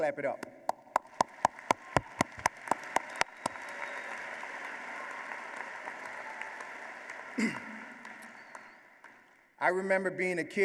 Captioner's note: applause